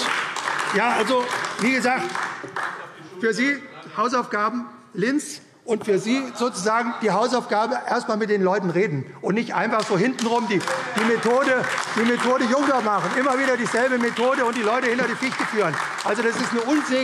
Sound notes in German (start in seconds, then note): 9.2 Beifall AfD